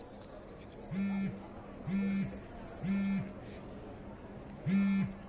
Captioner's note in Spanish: Vibra el celular